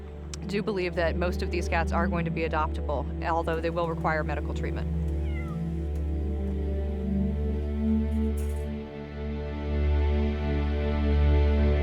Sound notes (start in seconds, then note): 5.0 cat meows